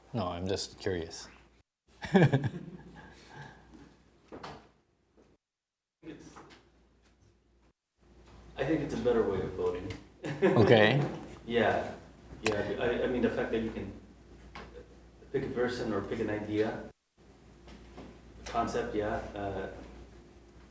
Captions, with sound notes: No, I'm just curious. (chuckling) - I think it's a better way of voting. (laughing) - Okay. - Yeah, yeah. I mean, the fact that you can pick a person or pick an idea, concept, yeah, makes sense.